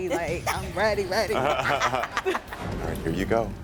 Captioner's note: all laughing